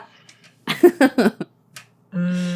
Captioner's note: laughing